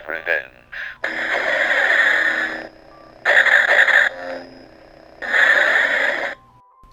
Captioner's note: Lightsabers sounds